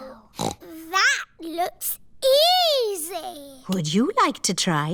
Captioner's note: snorts